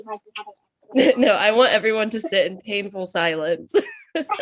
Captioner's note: laughs